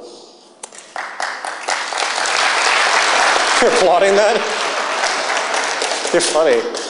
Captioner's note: applause